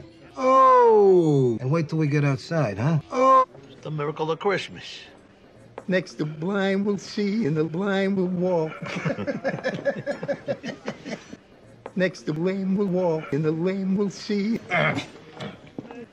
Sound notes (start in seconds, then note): 8.5 Tony and Silvio laughing; 14.6 Tony clearing his throat dismissively